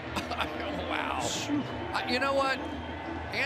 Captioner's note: chuckles